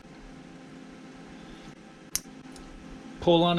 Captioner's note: click